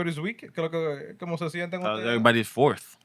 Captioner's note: speaking Spanish